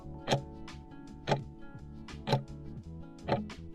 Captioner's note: timer ticking